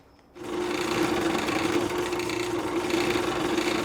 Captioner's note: drill whirs